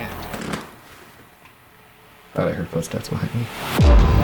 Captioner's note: object thumps